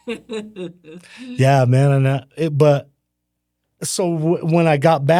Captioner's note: laughing